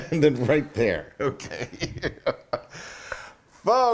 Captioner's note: laugh